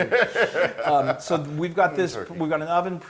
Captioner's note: laugh